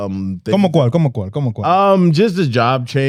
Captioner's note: speaking Spanish